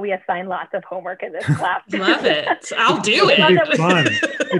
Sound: laughter

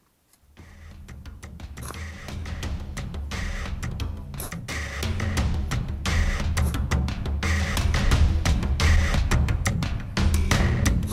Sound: shoveling sounds

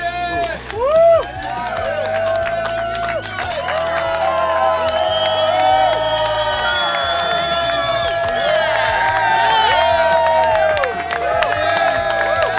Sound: cheering & Clapping

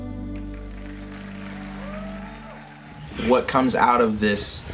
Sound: crowd cheering

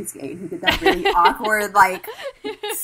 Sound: hosts laugh

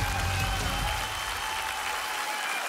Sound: applause

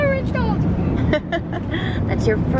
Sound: laughs

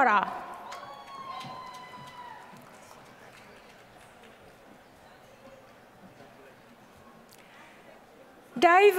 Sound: applause

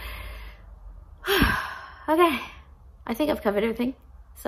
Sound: exhales deeply

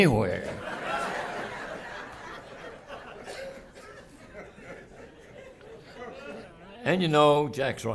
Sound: laughter

